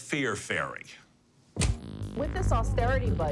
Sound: TV clicks on

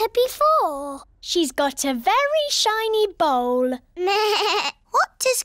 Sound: bleats

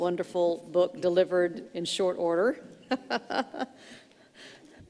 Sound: laughs

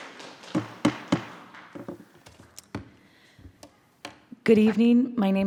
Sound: attendees applauding; gavel thudding

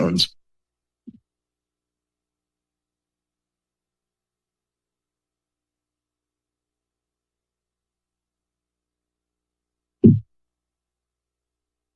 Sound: moment of silence

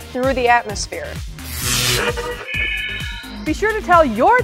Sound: sound Effects

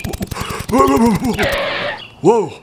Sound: skid

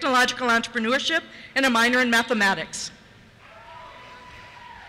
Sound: cheers

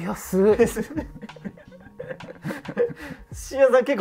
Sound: laughing

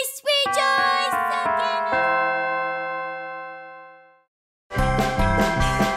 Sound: church bell chimes

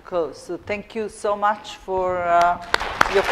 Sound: audience clapping

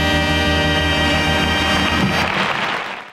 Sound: audience applauds

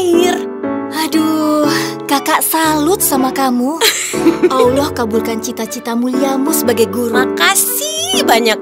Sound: aunty dewi giggles

